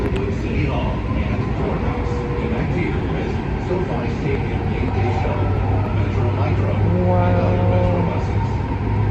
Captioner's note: train PA system